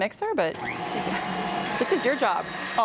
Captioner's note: mixer whirring